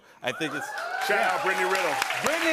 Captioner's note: cheers and applause